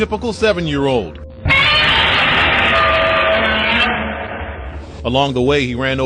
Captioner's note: Godzilla cry